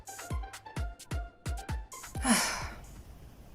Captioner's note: sigh